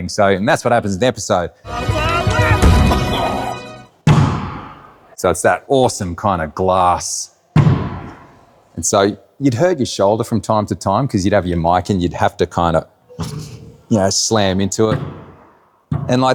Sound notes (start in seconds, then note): 2.0 Bluey screaming; 4.1 hand pounds; 4.1 body thuds; 7.7 hand pounds; 15.9 hand pounds